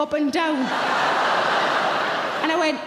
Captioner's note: audience laughing